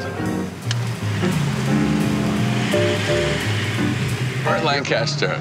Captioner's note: car engine humming